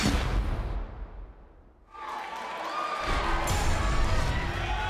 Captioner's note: crowd chatter